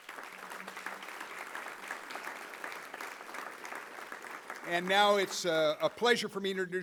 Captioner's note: applause